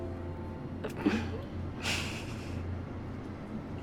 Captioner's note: snickering